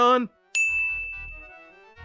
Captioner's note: ding